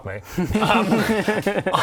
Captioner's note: untrusting laughter